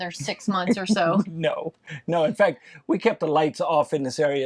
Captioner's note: laughs